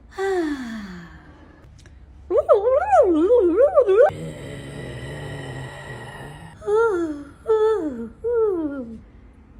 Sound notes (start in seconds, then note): 0.0 sighs; 2.4 makes silly noises; 4.0 groans